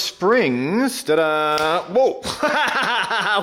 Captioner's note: spring pops; laughs